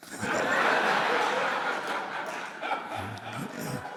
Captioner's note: all laughing